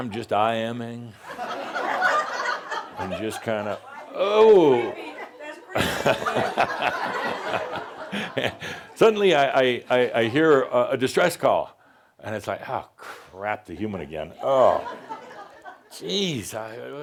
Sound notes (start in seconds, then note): 1.2 laughter; 8.7 more laughter